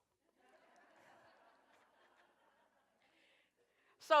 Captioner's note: laughter